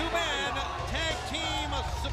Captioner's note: crowd chatter